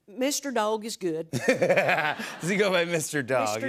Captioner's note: laughs